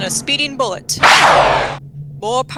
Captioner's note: gunshot, with ricochet